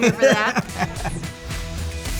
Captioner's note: laughs